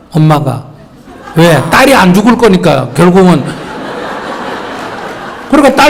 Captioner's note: audience Laughter